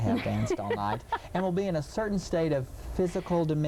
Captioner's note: laughing